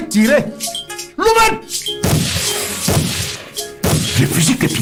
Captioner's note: multiple gunshot sounds